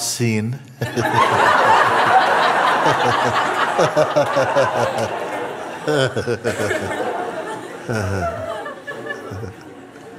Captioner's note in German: Lachen